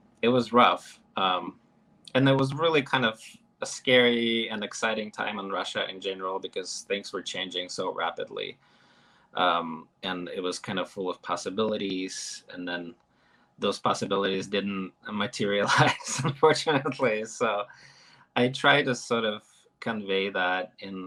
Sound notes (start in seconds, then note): 15.4 chuckles